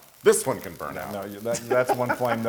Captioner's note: laugh